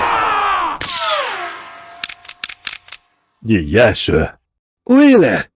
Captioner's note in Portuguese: grito